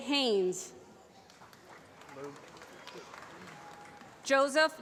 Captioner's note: applause